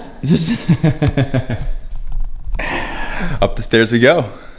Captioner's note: laughs